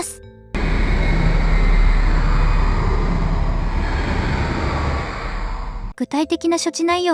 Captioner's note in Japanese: 悲鳴